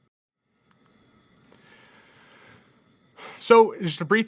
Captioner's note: computer mouse clicking